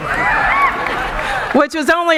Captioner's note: cheering